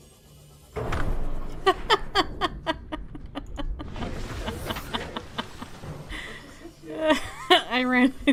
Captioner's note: laughs